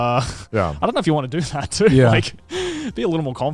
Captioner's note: laughs